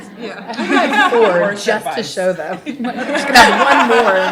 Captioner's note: laughter